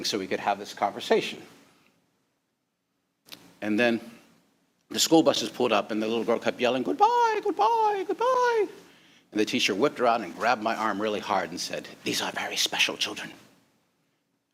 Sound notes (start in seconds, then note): 7.0 in a high pitched voice; 8.7 regular voice